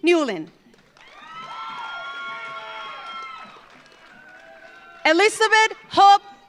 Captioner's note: audience applauds; audience cheers